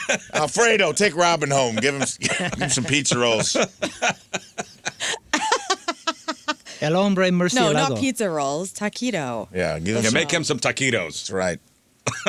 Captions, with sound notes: Alfredo, take Robin home. Give him some pizza rolls. (laughing) El hombre, Murcielado. No, not pizza rolls, taquito. Yeah, give him some. You make him some taquitos. That's right.